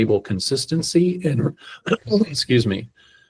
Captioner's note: clears throat